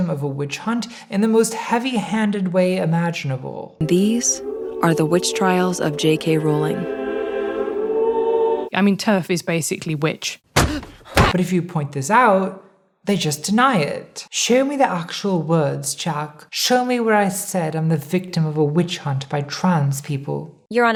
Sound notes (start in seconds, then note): 6.9 choir singing; 10.6 head thudding